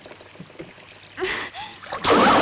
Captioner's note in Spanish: grita